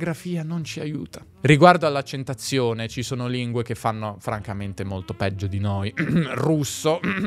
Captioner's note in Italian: tossisce